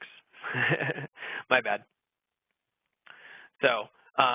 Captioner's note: laughing